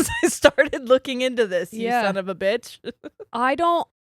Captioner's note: giggles